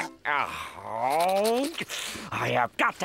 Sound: groaning

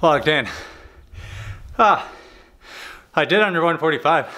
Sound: breathing heavily

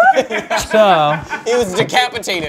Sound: crewmember laughs

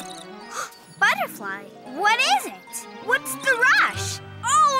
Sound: gasps

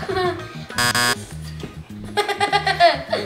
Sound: buzzer sounds; laughs

